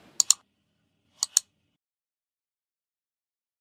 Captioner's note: click